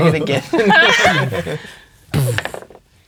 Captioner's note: players laughing; roaring, then laughing